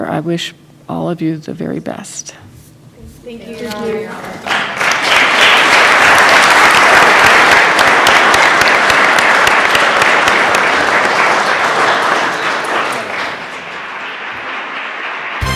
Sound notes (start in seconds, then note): 5.8 applause